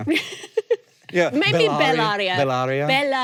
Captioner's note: speaking in foreign language